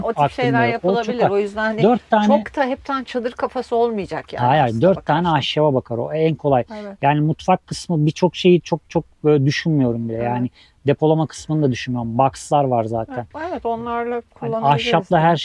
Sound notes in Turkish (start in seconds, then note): 6.9 homurdanır